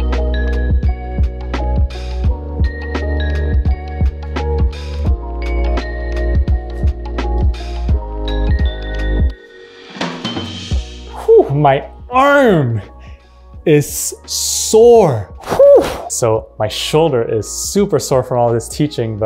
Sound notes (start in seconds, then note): 15.4 exhaling